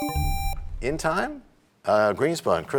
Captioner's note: buzzer sound, bell chimes